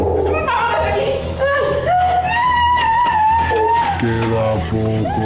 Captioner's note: screams